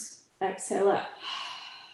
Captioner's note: exhales